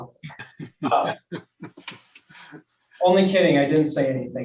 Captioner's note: group laughs